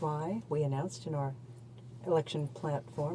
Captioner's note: speaking in french